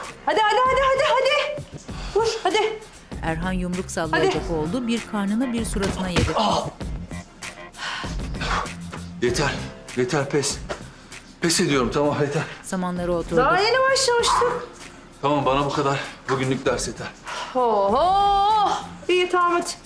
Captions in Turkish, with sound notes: Hadi, hadi, hadi! (Nefes sesi) Vur hadi. Hadi! (Yumruk sesi) Ah! Yeter, yeter pes. Pes ediyorum, tamam yeter. Daha yeni başlamıştık. Tamam, bana bu kadar bugünlük ders yeter. Oho, iyi tamam hadi.